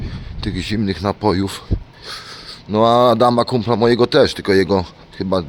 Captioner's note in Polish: parsknięcie